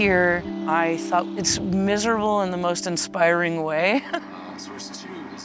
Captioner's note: chuckles